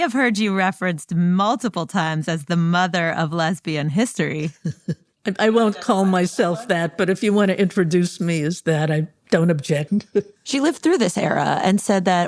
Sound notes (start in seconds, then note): 4.4 laughs